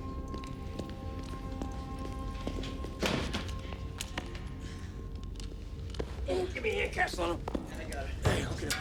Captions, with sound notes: (suspenseful music continues) (guns thud) - Gimme a hand, Castellano. - I got her.